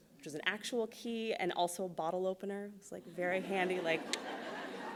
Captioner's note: laughs